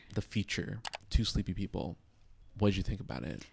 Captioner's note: computer mouse clicking